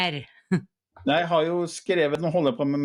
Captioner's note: laughs